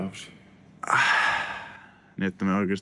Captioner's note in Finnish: huokaus